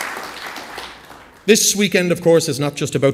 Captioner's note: applause